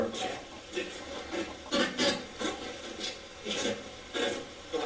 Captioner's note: static playback transmitting